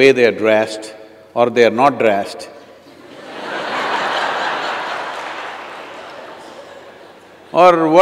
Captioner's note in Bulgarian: смях